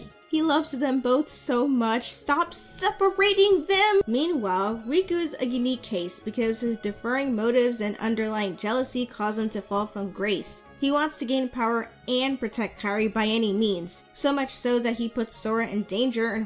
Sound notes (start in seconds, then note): none